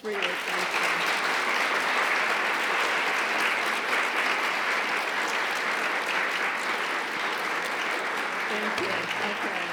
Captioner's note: applause